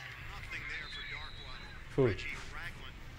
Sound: faint sports cast

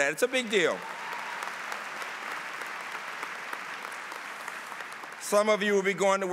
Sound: applause

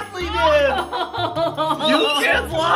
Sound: mom laughing

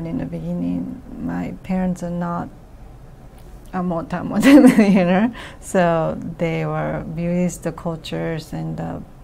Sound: laughs

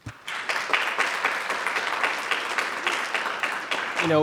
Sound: audience applauding

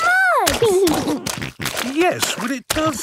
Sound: snorting

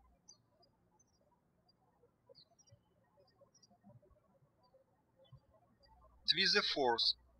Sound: birds chirping

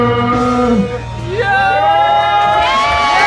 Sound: cheers

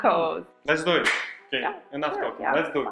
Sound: hands smacking

